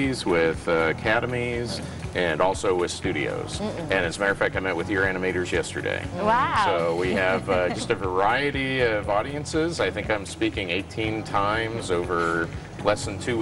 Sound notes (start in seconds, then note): 6.6 laughs